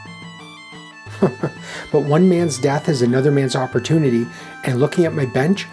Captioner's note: chuckles